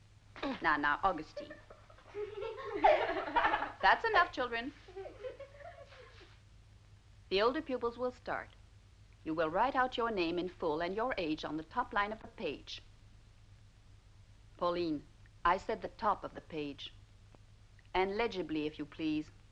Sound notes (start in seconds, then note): 1.3 kids laughing